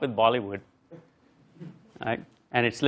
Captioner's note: laugh